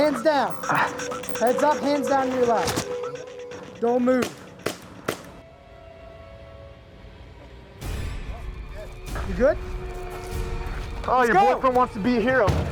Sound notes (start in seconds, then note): 4.2 gunshots firing; 6.9 dramatic music